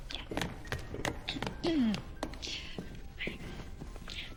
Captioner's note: clears ththroat